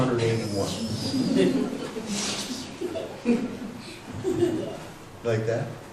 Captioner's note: chuckles from the audience